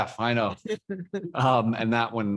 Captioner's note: laughing